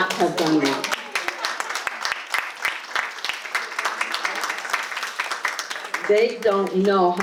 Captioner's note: audience applause